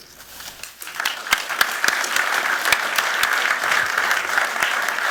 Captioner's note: applause